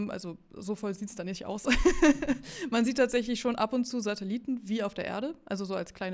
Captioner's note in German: gelächter